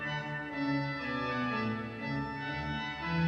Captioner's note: none